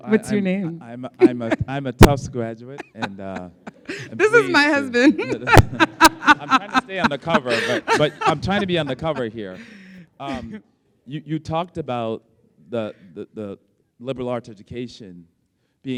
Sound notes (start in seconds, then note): 1.1 laughs; 6.1 laughs